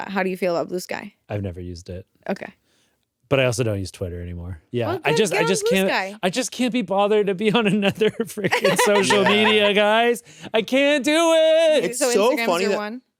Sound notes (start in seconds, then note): 8.4 laughs